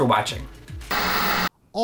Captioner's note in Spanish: estático